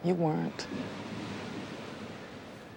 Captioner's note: none